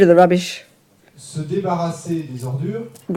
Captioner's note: French